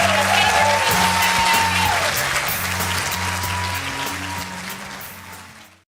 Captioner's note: clapping and cheering